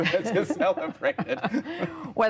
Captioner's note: laughter